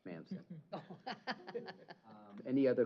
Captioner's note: chuckle